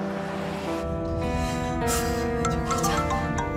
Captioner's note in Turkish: Nefes sesi